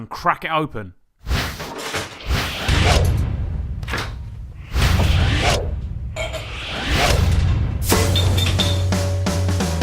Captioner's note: whooshing Sounds; sexy music